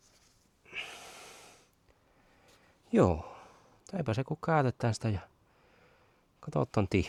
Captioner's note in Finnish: huokaus